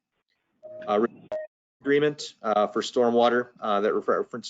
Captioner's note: microphone breaks up